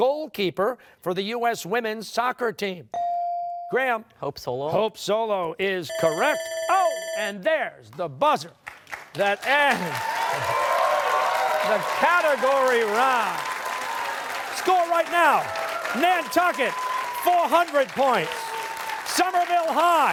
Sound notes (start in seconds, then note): 5.9 bell ringing; 10.0 cheers and applause